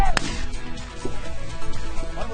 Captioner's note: gunshots